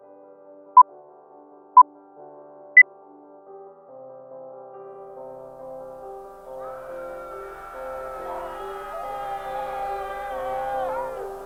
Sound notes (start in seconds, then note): 5.4 soft piano music; 6.4 people chattering